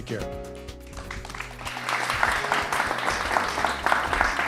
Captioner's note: applause